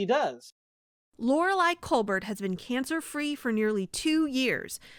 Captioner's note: voice-over